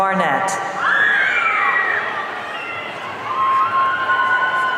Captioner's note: audience cheering